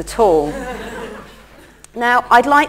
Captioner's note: laughter